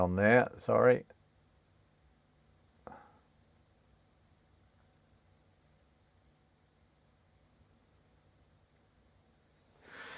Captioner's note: silence